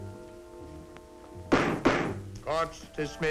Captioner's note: slams gavel